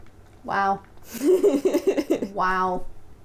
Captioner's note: laughter